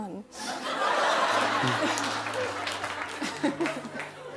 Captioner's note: laughter; laughs